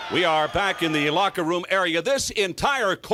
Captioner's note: crowd cheering